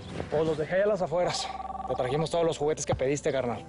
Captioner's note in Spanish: Suena el teléfono